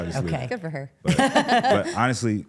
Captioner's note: laughs